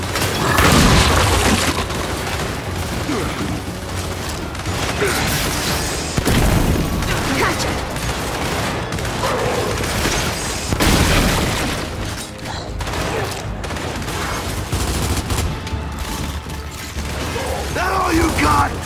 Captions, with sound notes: Gotcha. [GUNFIRE] [GUNFIRE] That all you got?